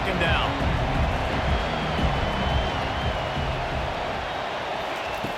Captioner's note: cheering, applause